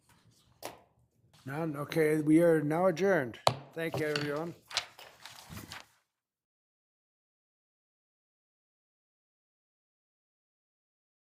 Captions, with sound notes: None. Okay, we are now adjourned. (gavel bangs) Thank you, everyone.